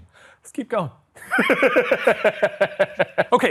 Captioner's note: laughing